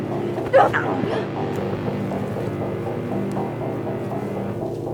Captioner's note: both groan; suspenseful music continues